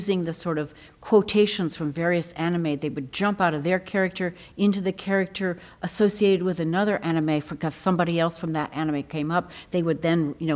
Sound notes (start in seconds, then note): none